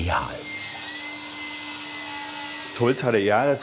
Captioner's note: screeching from the saw